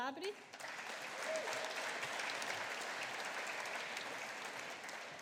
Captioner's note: audience applauding